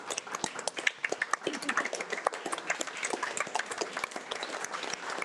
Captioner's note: audience applauding